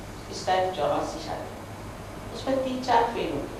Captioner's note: hindi